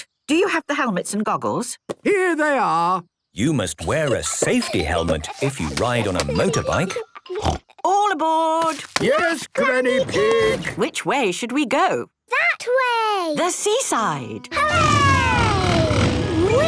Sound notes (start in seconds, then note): 7.3 snort